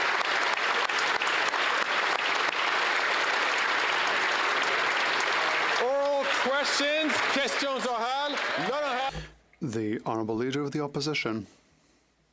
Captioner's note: applause